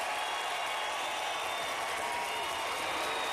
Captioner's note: applause